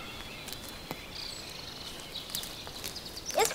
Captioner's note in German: Idyllisches Vogelgezwitscher